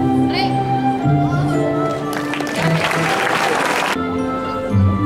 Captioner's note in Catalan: Aplaudiments